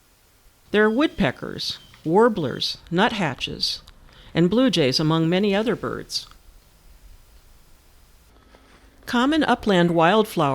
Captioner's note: birds singing